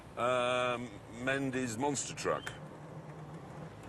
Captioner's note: none